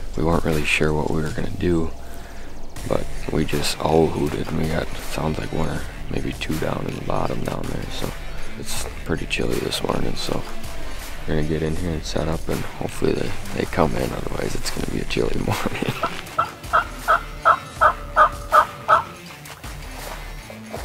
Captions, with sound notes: We weren't really sure what we were gonna do but we just owl hooted and we got sounds like what are maybe two down in the bottom down there so it's pretty chilly this mornin' so we're gonna get in here and set up and hopefully they come in otherwise it's gonna be a chilly morning. (turkey call squeaking)